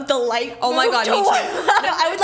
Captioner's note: laughs